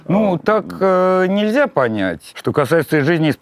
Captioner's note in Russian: none